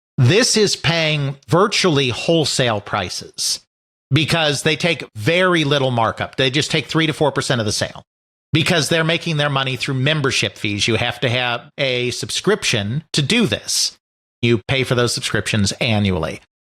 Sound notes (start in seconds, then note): none